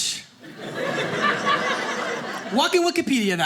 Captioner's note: audience laughing